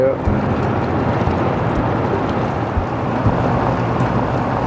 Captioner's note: motor running